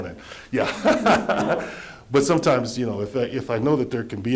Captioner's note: laughter